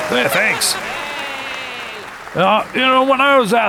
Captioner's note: crowd continues cheering